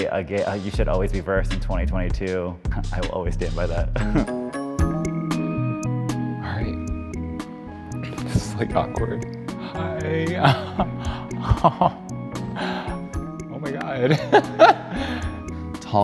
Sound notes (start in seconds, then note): 4.2 upbeat music; 10.4 chuckles; 14.0 laughs